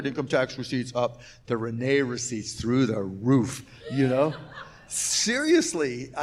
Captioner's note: laughs